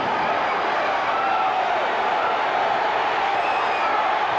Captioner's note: crowd cheers